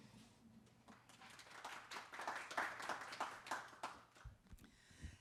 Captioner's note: audience applauding